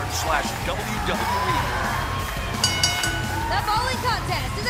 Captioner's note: bell ringing